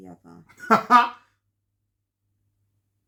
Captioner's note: laughter